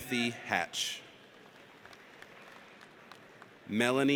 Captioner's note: audience applauds